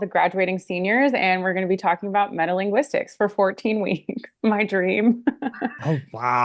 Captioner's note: laughs